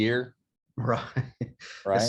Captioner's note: laugh